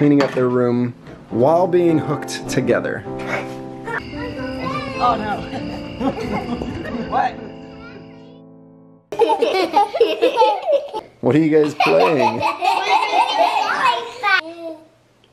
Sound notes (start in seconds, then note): 9.5 giggling